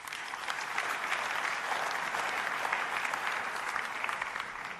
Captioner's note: applause